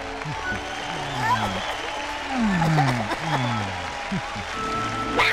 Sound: קהל מריע

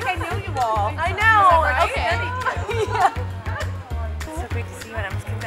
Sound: laughing

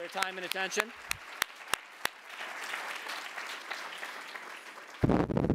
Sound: audience applauding

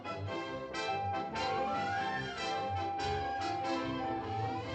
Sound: whistle blows

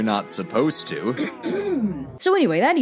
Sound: clears throat

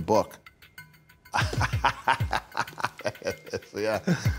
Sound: laughs

